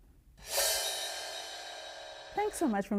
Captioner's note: graphic whooshing